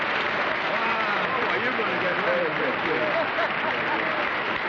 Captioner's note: applause